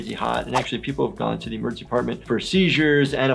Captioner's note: none